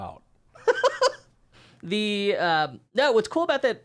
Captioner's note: laughs